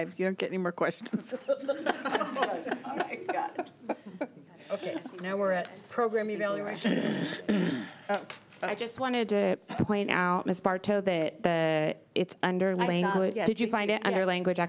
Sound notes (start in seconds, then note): 1.4 laughing